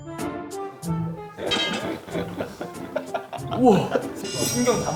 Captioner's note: can't hide their laughter